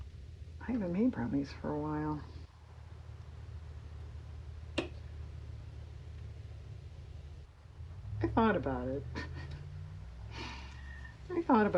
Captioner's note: laughs